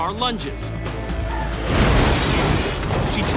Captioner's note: glass shattering